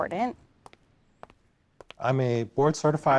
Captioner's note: soft footsteps